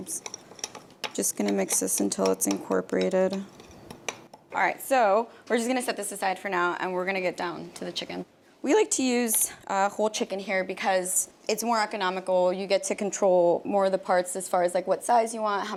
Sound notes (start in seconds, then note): none